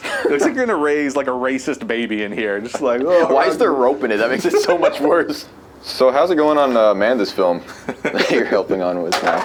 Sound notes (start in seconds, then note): 4.2 laughs; 7.6 laughs